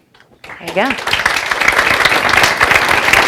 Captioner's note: applause